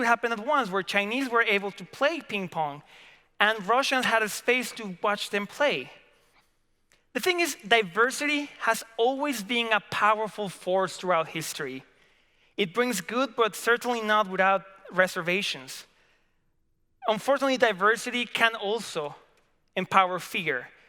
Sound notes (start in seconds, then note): none